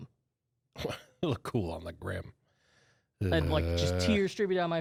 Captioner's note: laughs